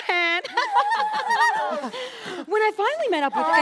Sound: Rose laughs, everyone nervously laughs along

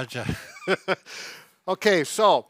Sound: laughing

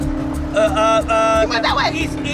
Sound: stammers

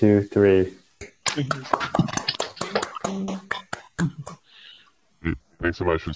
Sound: applause

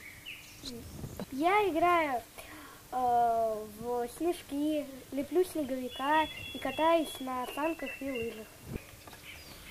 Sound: Russian

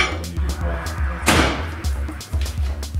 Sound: microwave SLAMS

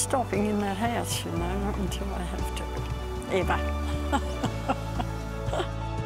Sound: laughs; light instrumental music

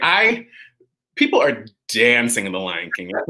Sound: laughs

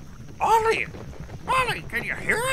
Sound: פרסות דופקות

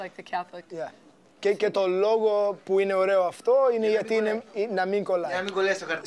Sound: speaking Greek

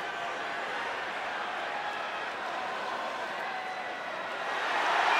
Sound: crowd cheering

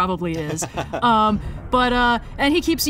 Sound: laughs

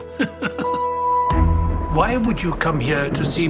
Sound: laughing; thunder cracking

